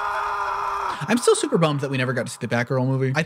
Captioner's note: man screaming